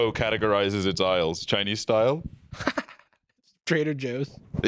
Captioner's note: laughing; laughs